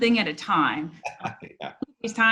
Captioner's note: laughs